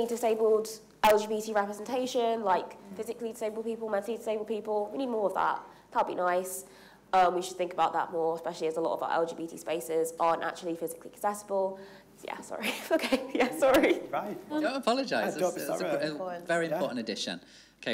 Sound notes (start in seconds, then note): 13.0 laughing